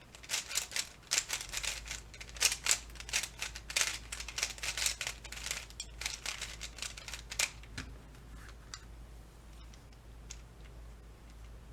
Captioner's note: loud cube sounds and being an awesome cuber